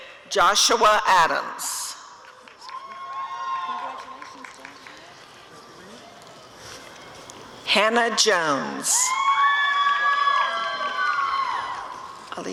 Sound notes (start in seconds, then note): 2.2 applause and cheering; 9.0 audience cheering